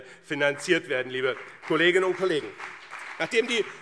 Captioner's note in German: Beifall BÜNDNIS 90/DIE GRÜNEN und CDU